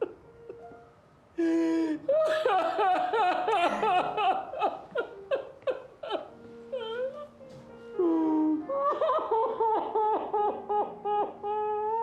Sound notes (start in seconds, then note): 2.3 wailing